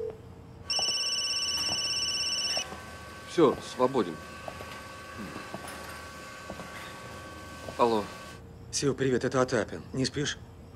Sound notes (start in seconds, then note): 0.6 phone ringing